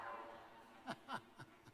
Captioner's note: cheers